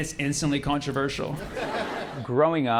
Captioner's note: laughter